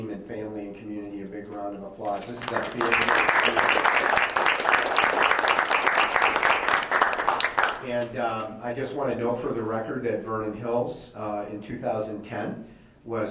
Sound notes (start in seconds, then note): 2.0 members applauding